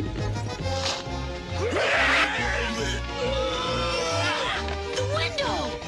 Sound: roars

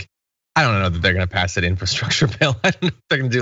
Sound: laugh

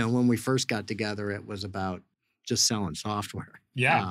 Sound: laughs

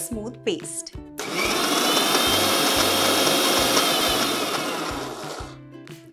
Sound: grinding sound

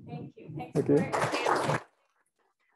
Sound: applause

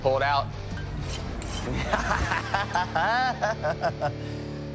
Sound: laughing

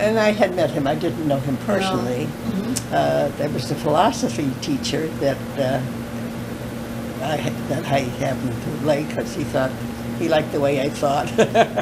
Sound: laughter

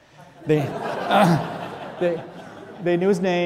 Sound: audience laughing

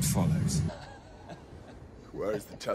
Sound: giggling

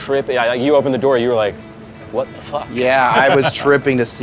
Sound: laughs

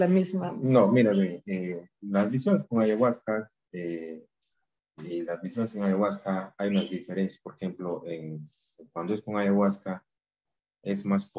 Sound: speaking in spanish

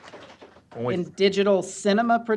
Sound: applause

